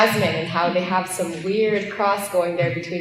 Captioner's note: laughter